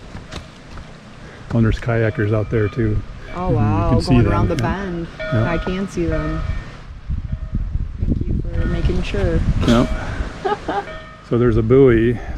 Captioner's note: laugh